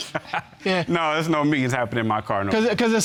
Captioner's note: chuckles